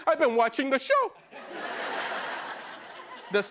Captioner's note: laughter